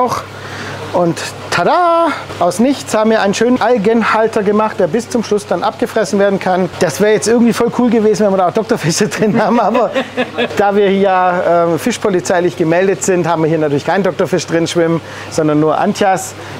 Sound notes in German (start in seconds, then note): 9.0 dreckiges Lachen aus dem Off